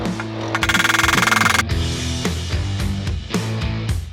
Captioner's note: drilling noise